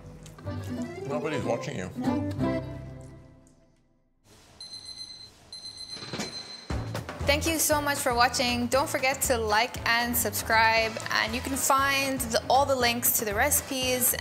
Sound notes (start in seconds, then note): 0.0 upbeat music; 3.2 upbeat music; 5.5 alarm ringing